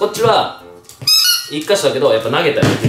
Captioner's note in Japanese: ブヒィ